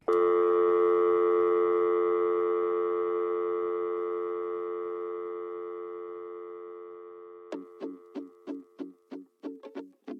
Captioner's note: dial tone